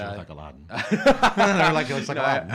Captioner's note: laughing